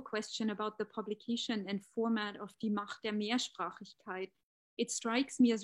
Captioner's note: speaking german